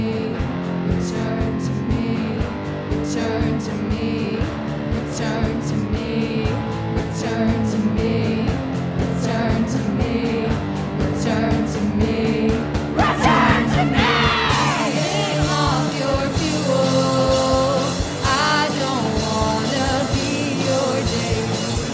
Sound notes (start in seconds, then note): 13.0 screams